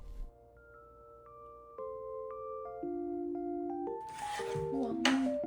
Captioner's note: slurp